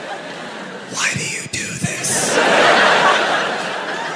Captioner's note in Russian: шепотом